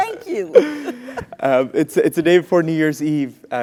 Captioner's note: laugh